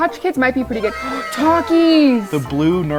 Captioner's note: gasps